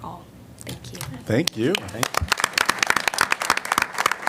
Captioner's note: applause